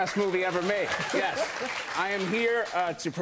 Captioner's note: applause